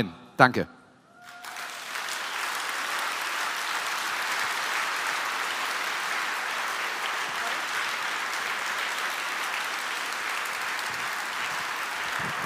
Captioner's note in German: Applaus